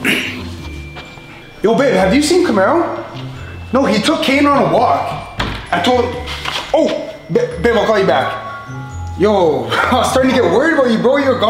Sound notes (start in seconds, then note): 0.2 grunts; 5.1 door thuds